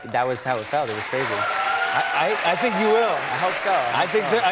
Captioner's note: cheers and applause